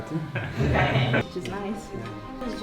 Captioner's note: laughter